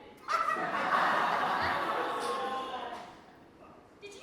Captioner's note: audience laughs